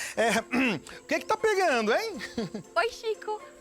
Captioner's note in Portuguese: Chico pigarreia